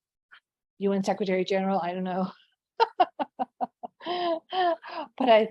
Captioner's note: laughs